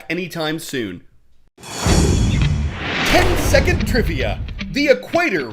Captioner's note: voice-over